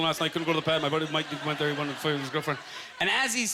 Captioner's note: talking fast